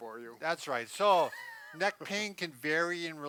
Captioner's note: laughs